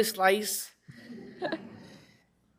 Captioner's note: laughter